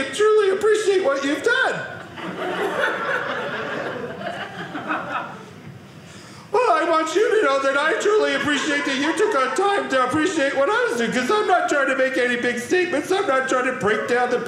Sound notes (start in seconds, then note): 1.8 audience laughing